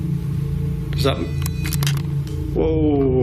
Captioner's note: beeping